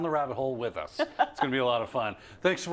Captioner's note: laugh